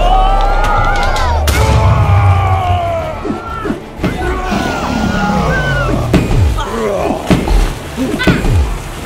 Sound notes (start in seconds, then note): 1.8 roars; 4.2 screams